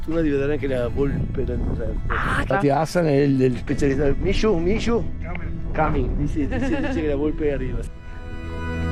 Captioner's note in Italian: risate